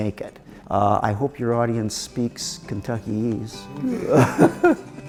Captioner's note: upbeat music; laughs